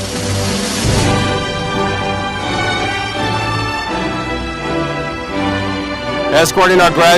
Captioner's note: audience applauding